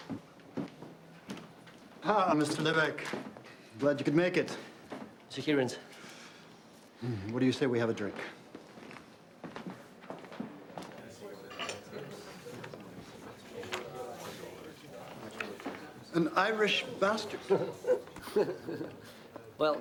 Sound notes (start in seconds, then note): 10.9 people chattering; 17.3 Rene laughs